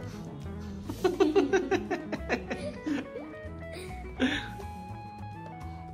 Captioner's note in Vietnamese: Tiếng cười